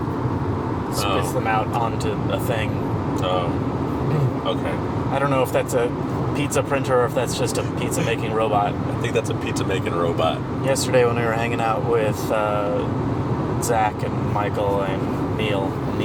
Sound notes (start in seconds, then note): 7.6 laughs